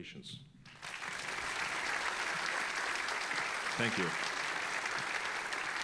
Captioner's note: all applauding